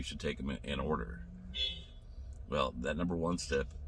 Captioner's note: car horn honking